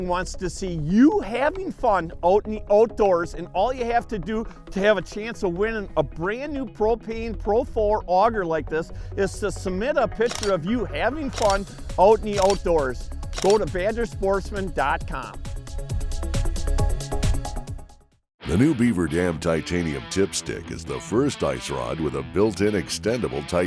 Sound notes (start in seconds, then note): 16.3 fast-paced music; 18.5 voiceover